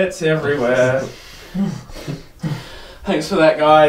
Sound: grunting

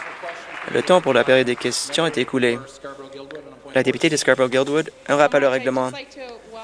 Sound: some Applause

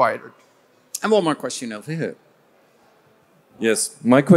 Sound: crowd

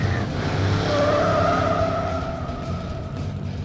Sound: tires screeching

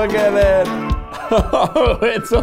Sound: laughing

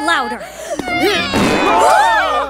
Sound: passengers gasp; passes gas

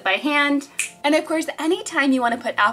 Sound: fingers snapping

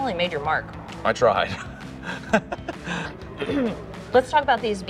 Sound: laughing

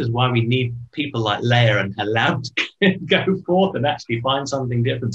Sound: giggles

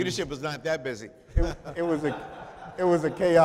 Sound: chuckling

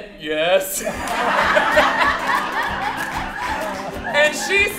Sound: audience laughing

